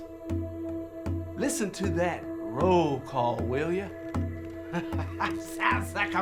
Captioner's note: drumming music; laughing